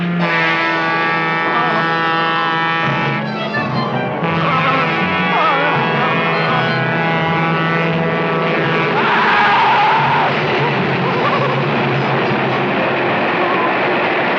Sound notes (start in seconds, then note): 0.1 Seymour exclaiming; 0.1 train horn blaring; 8.9 Seymour screams